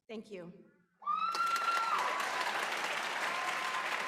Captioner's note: applause